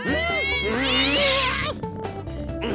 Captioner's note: exclaims; whimpers